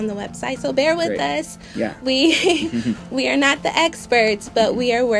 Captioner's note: laughs